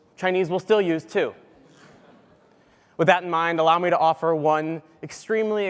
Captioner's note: laugh